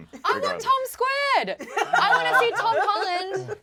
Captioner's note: laughs